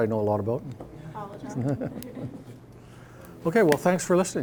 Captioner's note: all chuckling